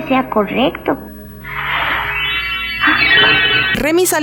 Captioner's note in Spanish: Sonido de soplido; Ruidos mágicos